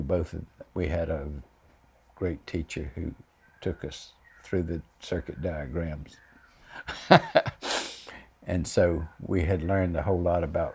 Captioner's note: laughs